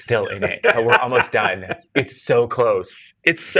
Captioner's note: guy laughs